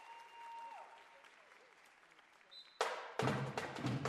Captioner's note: cheers and applause